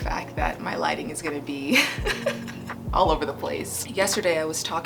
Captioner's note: chuckling